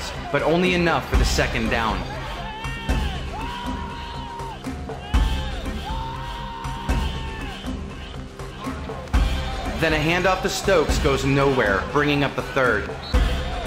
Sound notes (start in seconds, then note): 2.6 music and Cheering